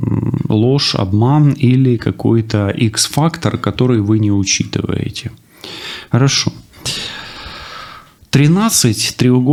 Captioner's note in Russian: вздыхает